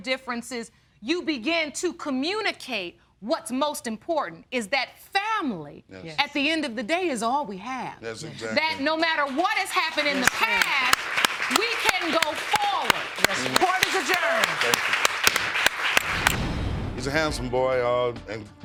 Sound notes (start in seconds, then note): 12.7 banging gavel